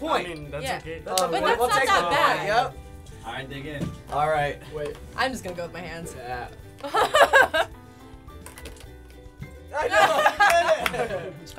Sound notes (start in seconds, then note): 6.8 laughing; 9.8 laughter